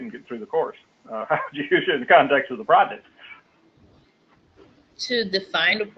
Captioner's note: laugh